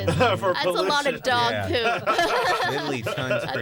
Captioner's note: laughter